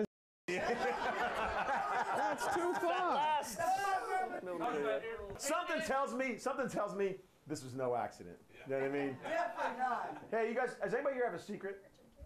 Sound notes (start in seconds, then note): 4.7 laughter